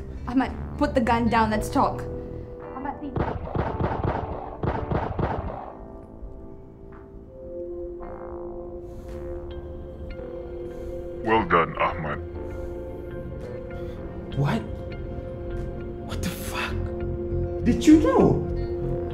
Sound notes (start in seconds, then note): 3.1 muffled gun shots; 7.2 suspenseful music